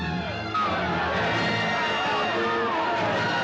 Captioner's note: Grito, Clamor